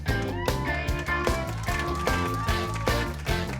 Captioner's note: cheering